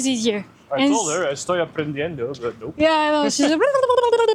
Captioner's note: in Spanish